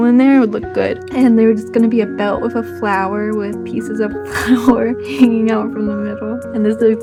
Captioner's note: chuckles